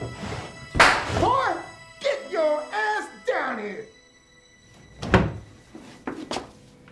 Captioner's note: loud crack